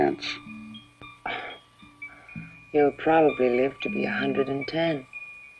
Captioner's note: scoffs